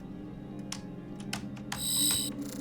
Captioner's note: keyboard clacking; beeping